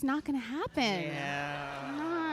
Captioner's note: laughter